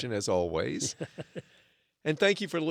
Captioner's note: chuckles